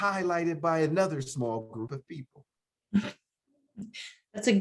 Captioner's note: chuckles